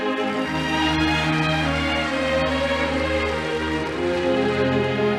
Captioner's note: audience applauding